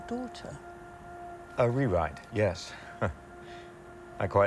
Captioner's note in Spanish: risas